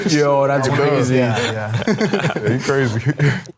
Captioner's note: group laughing